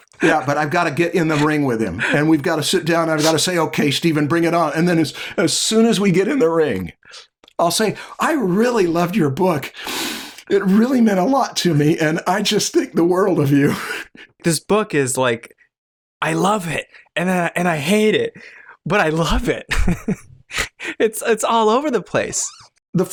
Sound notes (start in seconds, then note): 14.0 chuckles; 19.6 laughter